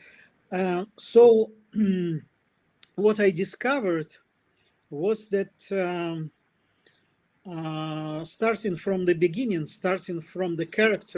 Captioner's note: прочиства гърло